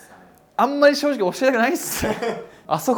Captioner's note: laughs